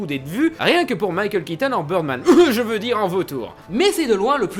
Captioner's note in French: tousse